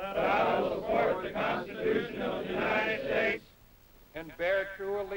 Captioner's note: repeating in unison